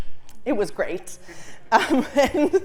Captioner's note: laugh